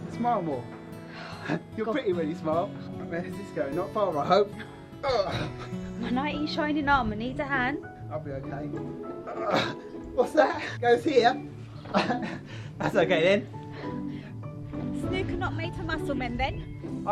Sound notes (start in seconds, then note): 9.3 grunts; 11.8 laughs